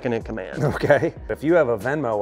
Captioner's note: chuckles